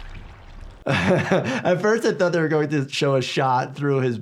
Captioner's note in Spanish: risas